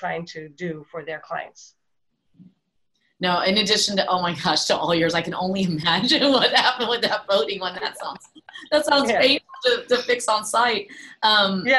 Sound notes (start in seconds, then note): 8.0 everyone laughs